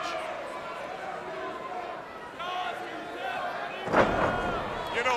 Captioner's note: crowd chatter